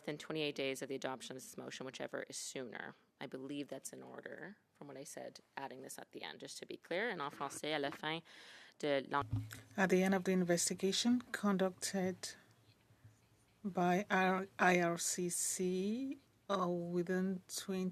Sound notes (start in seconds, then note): 12.9 speaking French